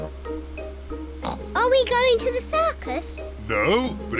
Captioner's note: oinks